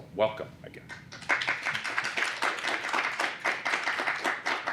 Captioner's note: applause